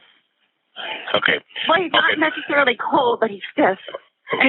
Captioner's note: sighs